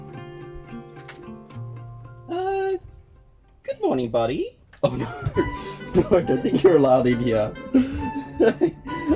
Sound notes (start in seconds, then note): 4.8 laughs